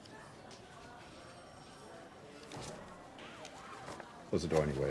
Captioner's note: phone rings